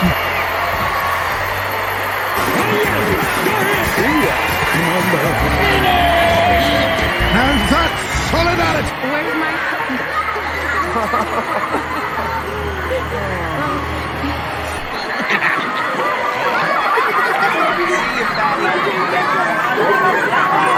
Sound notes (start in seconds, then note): 15.6 laughing; 16.7 Laughing at Foreman Mustache Pig; 17.7 🔊gruffing tuneless happily and shaking her cute butt🍑